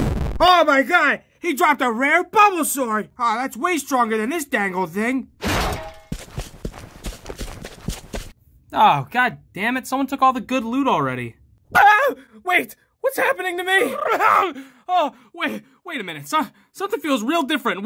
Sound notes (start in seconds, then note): 5.4 clunk